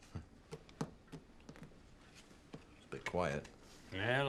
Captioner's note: Rob chuckles